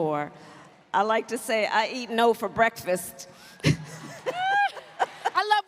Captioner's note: laughter